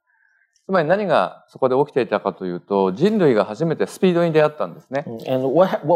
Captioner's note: speaking japanese